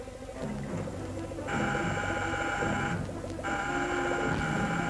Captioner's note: buzzing